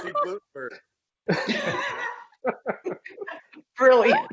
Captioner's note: laughing